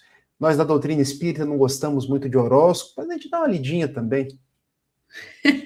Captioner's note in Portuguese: risadas